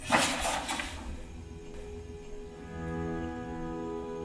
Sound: paper noise; ambient music

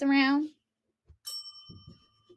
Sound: bell dings

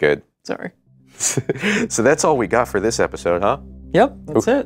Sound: laughter

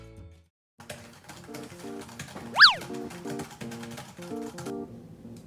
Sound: laptop keys clicking

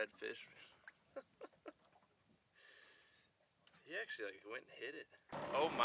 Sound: laughing softly

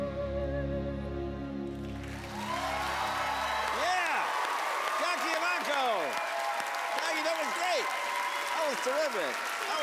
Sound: cheers and applause

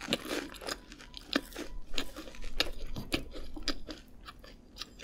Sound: while under construction, whistle, siren noise 😭

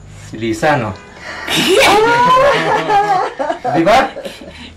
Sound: laughs; giggles

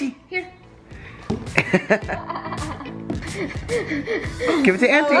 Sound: everyone laughs

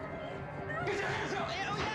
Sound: woman screams; gunshots

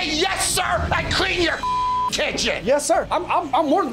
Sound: beeping

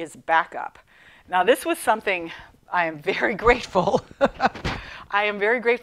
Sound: laughing

